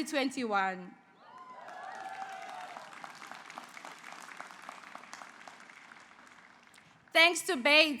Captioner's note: applause